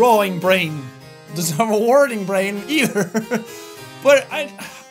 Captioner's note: laughs